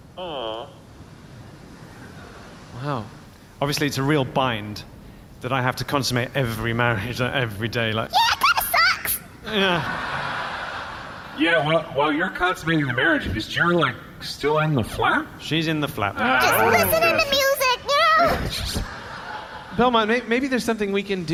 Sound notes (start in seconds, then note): 8.5 shouting